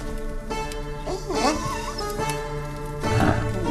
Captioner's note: dog whining